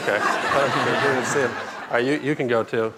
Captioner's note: laughter